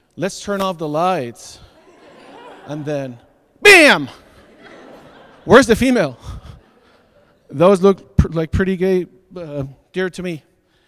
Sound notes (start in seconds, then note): 1.7 audience laughs; 6.8 laughs